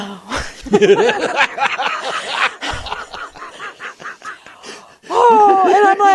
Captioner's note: laughter